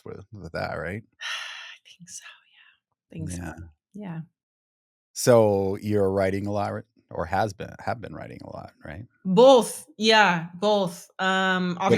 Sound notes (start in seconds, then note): 1.2 sighs